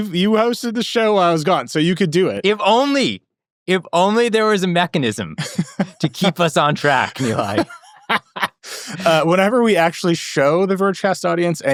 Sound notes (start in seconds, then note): 7.6 laughing